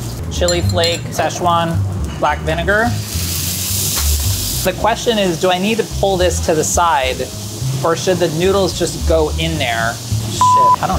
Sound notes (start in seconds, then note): 3.2 food sizzles; 3.2 soft jazzy music